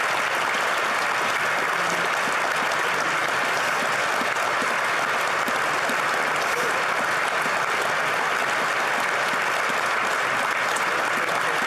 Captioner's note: applause